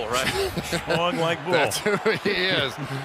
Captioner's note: laughter